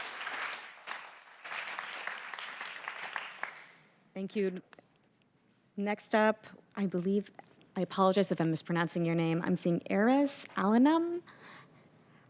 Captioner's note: applause